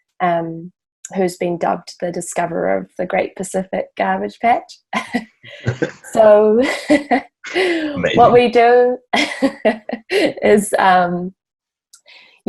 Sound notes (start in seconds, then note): 7.5 both laugh